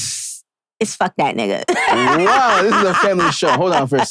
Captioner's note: laughing